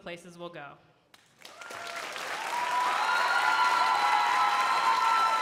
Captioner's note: crowd applauding